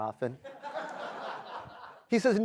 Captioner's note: laughter